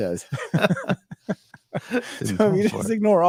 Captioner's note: laughing